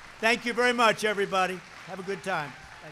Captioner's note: applause